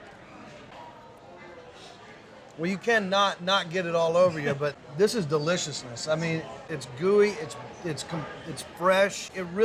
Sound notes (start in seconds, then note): 1.4 sniffing